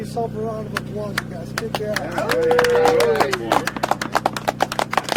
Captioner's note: applause